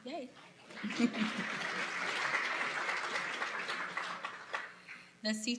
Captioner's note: applause